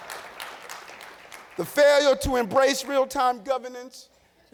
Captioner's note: laughter and applause